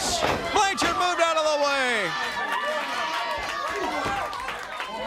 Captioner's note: crowd cheering